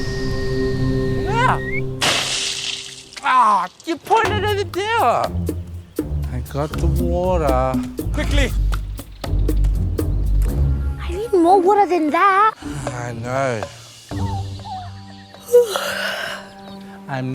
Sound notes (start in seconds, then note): 15.4 sighs; 15.4 yawns